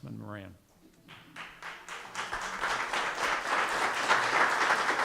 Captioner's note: audience applauding